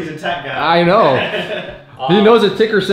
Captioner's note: laughing